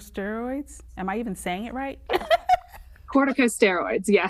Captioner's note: laughs